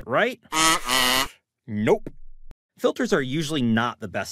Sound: harsh alarm sound

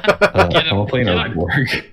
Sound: laughs

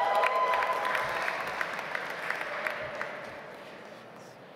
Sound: audience applauds

